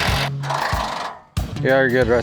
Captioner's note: upbeat music; drilling